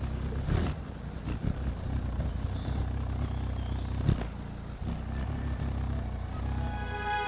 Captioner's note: rumbling sound